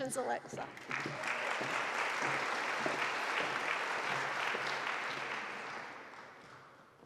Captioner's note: audience applauding